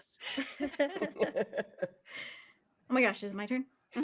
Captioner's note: everyone laughs